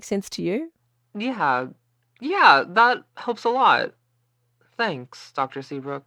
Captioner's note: excited